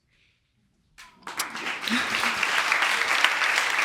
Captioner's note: audience applauding